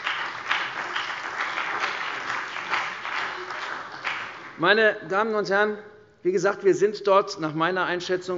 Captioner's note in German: Beifall bei der CDU und dem BÜNDNIS 90/DIE GRÜNEN